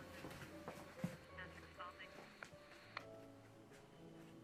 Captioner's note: radio chattering